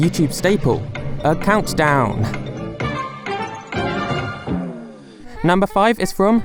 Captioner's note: countdown sfx